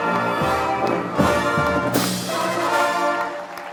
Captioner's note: applause